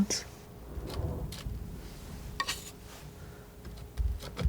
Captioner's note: scratching; scratching